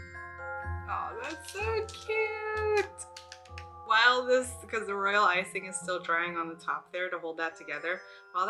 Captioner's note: claps